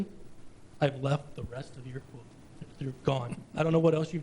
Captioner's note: murmurs